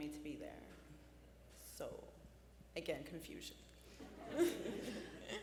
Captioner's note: laughs